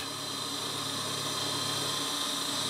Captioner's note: whirring